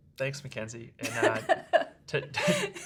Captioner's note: laughs